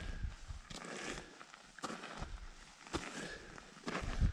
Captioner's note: footsteps thumping